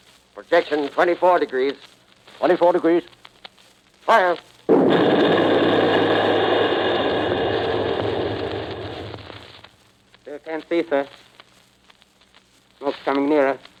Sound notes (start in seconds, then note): 4.7 boom